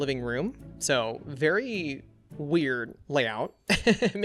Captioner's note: laughs